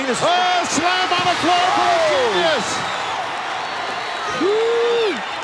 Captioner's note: audience cheering